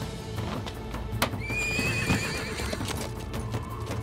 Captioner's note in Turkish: At kişniyor